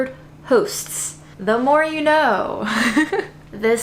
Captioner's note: laughs